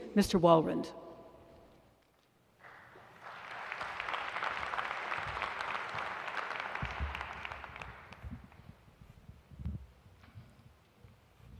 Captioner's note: applause